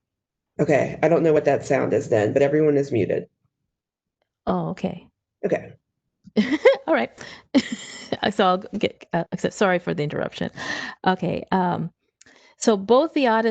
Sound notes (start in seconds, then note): 6.4 laughs